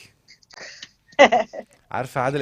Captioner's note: laughs